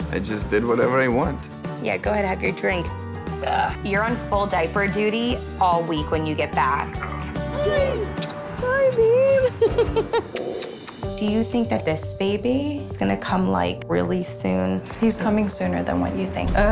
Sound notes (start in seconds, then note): 3.4 burps; 10.1 smooching sounds